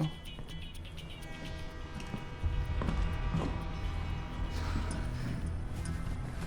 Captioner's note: headset music; train horn, slow footsteps